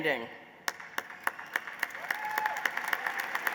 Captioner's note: applause